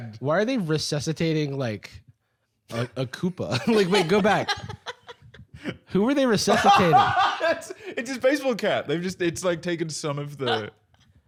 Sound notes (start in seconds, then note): 3.5 laughing; 6.5 laughs